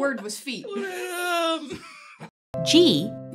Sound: makes a pained groan

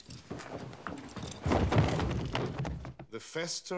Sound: large thud

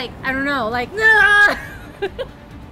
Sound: groans; laughing

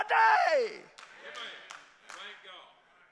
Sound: congregation applauding

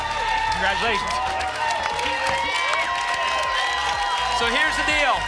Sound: applause and cheering

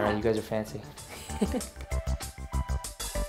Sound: chuckling; lively music

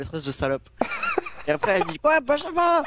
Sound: laughs

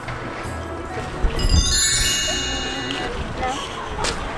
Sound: 'Sparkly' sound effect

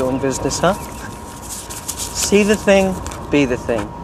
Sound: rustling of bills

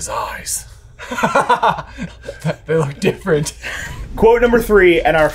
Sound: laughs

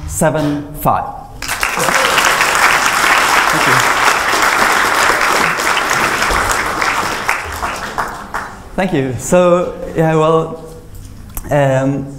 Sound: applause

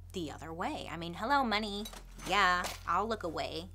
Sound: cash register ding

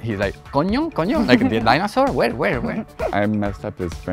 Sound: laughs

